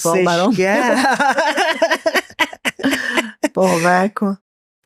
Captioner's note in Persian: خنده